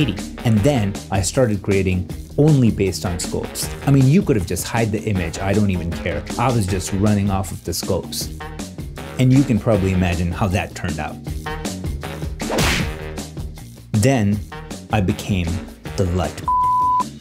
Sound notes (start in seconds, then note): 12.4 whip cracking; 16.4 beeps